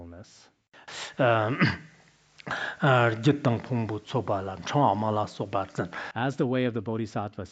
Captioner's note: citing scripture in Tibetan